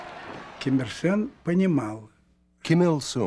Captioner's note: speaking russian